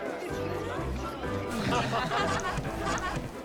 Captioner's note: laughing